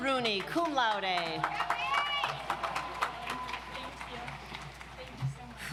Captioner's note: audience applauds